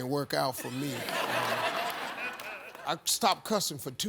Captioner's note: audience laughs